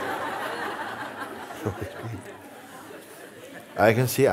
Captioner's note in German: Lachen